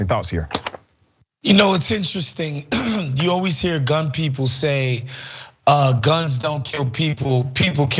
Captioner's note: cough